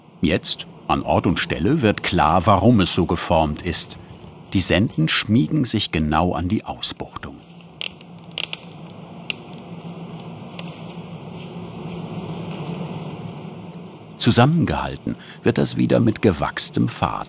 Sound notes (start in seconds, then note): 7.4 creaking